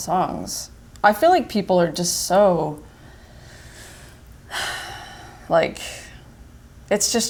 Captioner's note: sighs